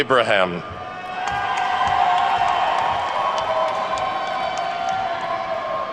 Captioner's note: attendees whooping and clapping